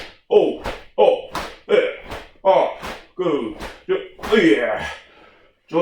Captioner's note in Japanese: ハァッ